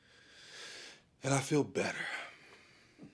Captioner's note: calm breathing